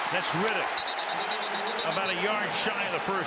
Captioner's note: whistle